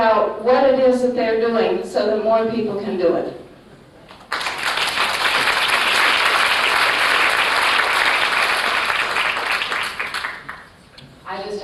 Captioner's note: applause